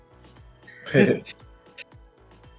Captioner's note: laughs